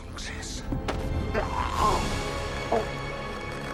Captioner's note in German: flüstert; Würgen, Keuchen